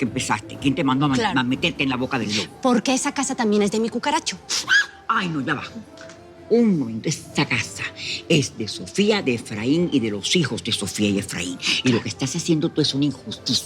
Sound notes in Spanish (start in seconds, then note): 4.6 Grito